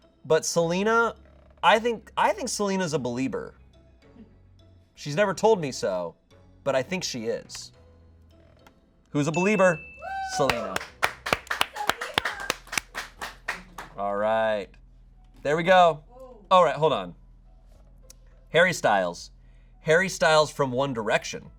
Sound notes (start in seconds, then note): 10.3 audience applauding